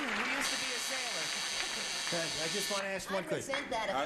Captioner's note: buzzing